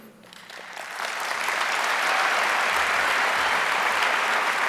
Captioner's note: audience applauds